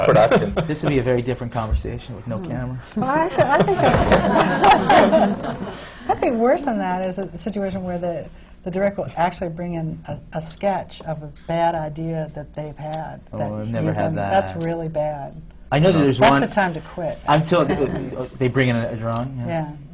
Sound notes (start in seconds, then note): 5.0 laughter